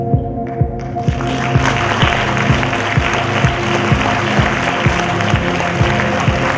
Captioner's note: applause